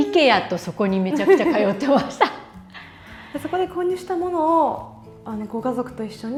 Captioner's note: laughs